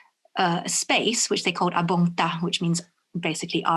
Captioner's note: speaks in foreign language